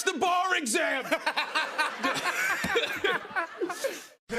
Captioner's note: laughter